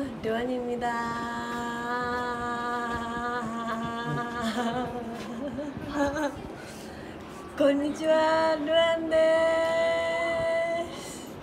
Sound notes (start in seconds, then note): 3.9 giggling